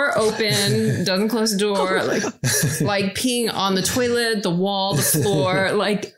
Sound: continue to laugh

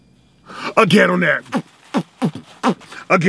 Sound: beatboxing

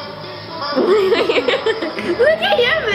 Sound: laughing

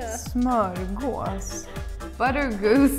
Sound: speaking in a foreign language

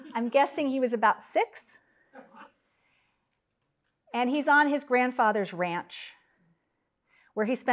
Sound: laugh

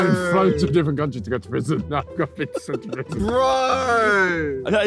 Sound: laughing

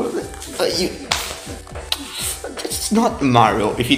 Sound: disappointment noises

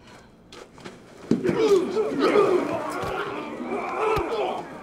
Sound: men grunting

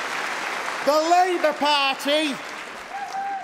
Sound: applause

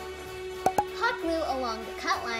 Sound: pop; upbeat music

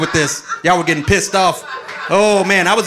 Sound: audience laughing

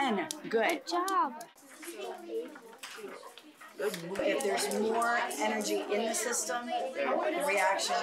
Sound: sounds of the class working

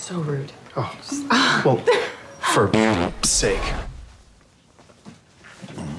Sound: farts

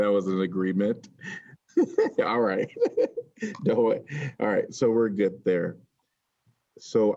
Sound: laughter

